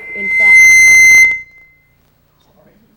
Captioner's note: mic resonance